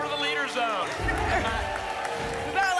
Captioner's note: applause and cheering